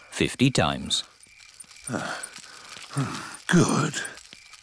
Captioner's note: panting